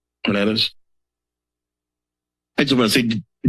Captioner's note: silence